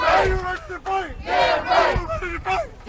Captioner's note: chanting